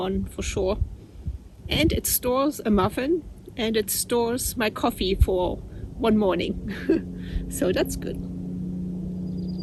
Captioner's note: laughs